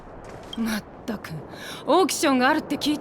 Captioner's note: sigh